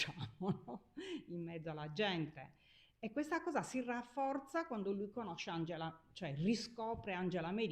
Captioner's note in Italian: risate